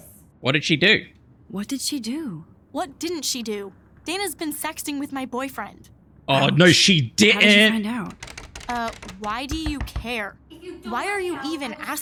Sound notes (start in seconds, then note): none